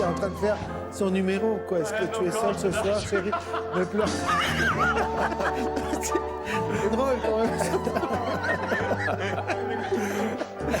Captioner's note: crying